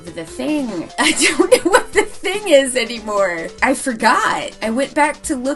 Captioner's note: laughs